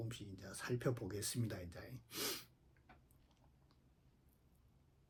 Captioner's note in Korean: 콧방귀